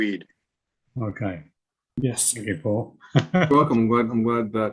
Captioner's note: laughing